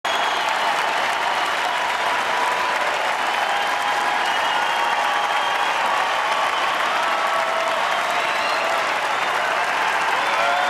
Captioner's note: applause